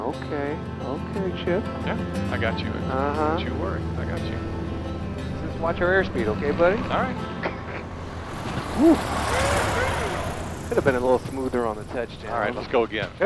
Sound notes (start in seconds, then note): 8.7 Baratunde cheering